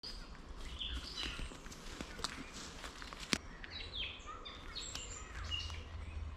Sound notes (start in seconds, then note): 0.0 birds chirping